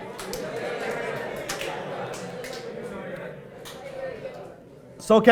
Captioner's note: excited chattering